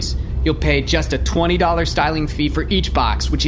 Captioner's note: none